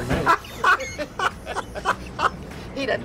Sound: laughs

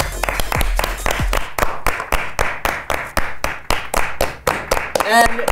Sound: claps

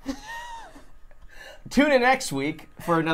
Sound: laughs

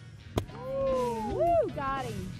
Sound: excited cheers

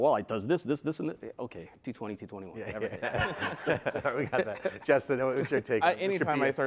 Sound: laughter

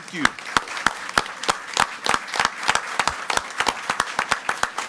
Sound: audience applauds

